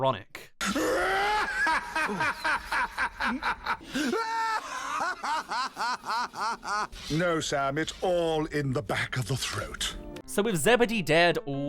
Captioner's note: RRRaahahah